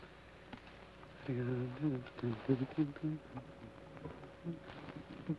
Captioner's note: Joshua hums melodically